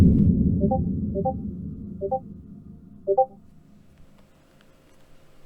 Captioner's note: sounds of messages